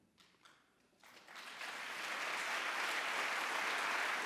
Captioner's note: applause